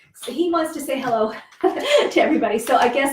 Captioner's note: laughs